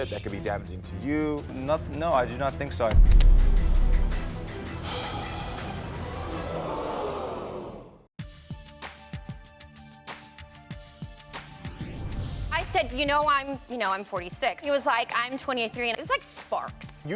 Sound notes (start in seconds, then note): 4.6 Karamo sighs; 8.4 instrumental music